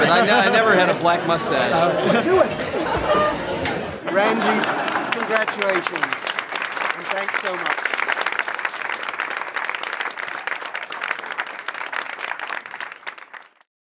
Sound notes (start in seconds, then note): 8.1 applause